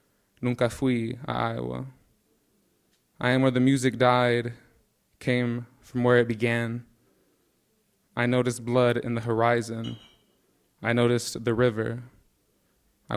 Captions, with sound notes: (speaking in Spanish) at Iowa. I am where the music died, came from where it began. I noticed blood in the horizon. I noticed the river.